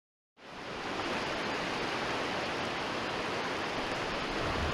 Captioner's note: water rushing